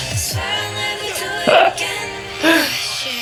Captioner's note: laughs